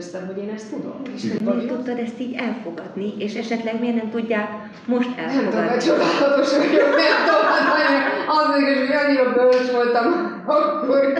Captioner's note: laugh